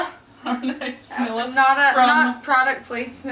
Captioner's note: laughs